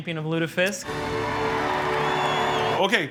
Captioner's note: triumphant music; crowd cheers